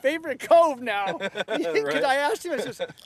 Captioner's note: laughter